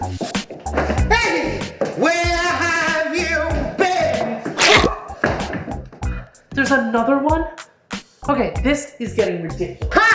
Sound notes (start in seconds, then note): 4.6 wet slap